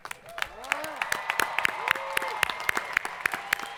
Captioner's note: crowd applauding